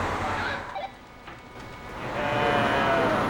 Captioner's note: sound of car moving; sound of walkie talkie beeping